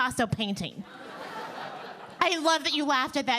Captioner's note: audience laughing